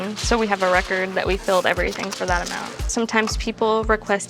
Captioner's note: pills whish